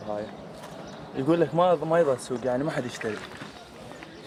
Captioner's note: man answers in Arabic